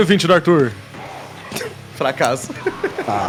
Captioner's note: chuckles